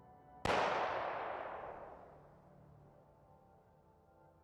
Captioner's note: gun banging